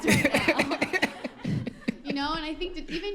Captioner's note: laughter